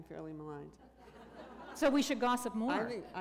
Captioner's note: laughter